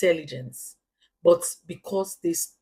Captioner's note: paause